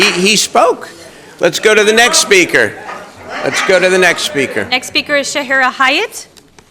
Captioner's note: crowd jeering; crowd chanting let him speak